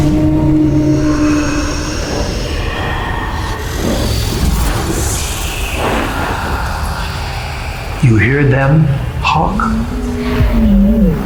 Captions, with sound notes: (mysterious roaring) (energy whirring) You hear them, Hawk?